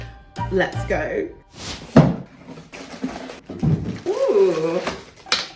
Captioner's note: cellophane crinkling